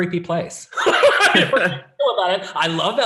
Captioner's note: laughing